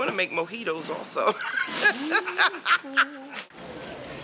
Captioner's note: laughter